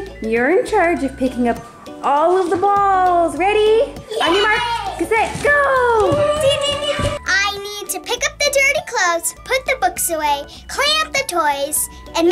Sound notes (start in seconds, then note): 5.6 children cheer